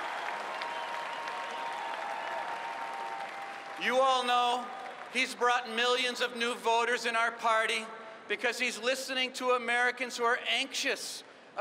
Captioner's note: cheers and applause